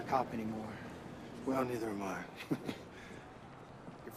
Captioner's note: chuckling